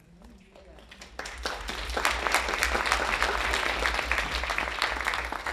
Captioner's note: audience applauding